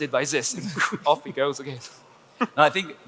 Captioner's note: blows sharply